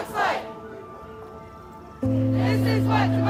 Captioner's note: ghostly Voice